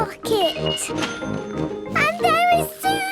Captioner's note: cash register dinging